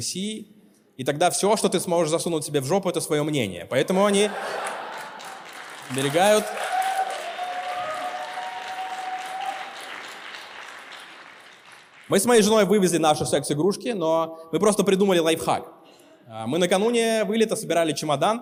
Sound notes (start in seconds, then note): 9.1 applause